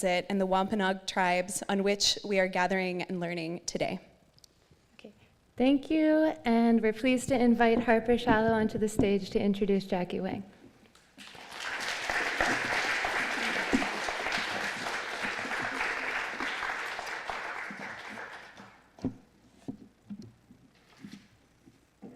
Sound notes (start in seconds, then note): 11.2 applause; 17.3 rustling